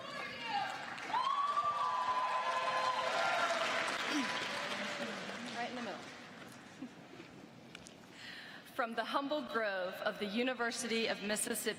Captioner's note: cheers and applause